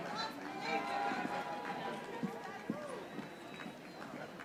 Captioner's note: audience applauding